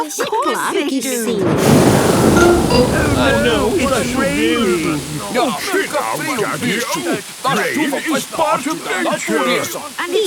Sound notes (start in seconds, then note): 1.1 thunder booming